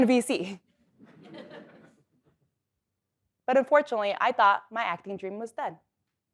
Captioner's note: laugh